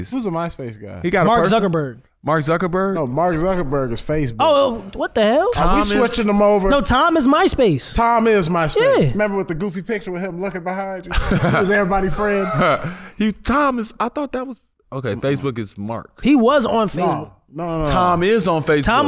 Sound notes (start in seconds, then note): 12.1 chuckles